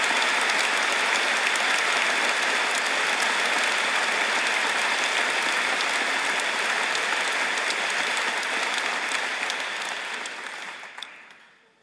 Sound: applause

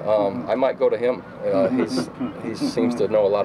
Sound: laughter

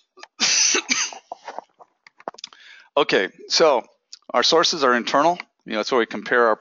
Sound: cough

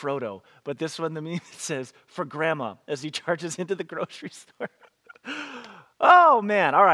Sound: laughs

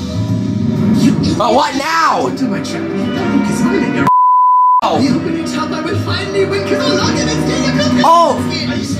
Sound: beep

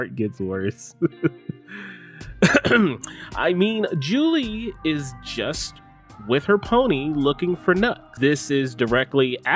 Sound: clears throat

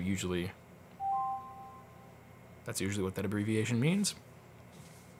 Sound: chime

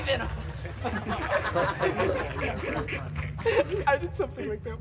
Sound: all laugh

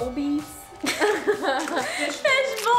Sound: both laugh

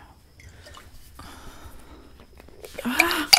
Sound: liquid sloshing

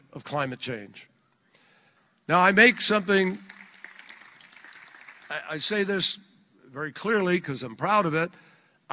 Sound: applause

